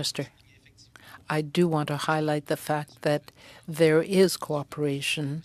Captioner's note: speaking French